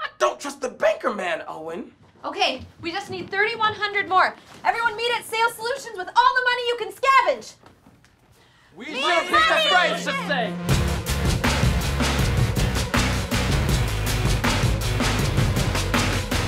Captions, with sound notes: I don't trust the banker man, Owen. Okay, we just need $3,100 more. Everyone meet at Sales Solutions with all the money you can scavenge. (multiple different cheers) (intense music)